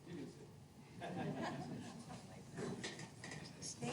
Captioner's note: laughter